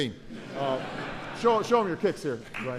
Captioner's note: laughter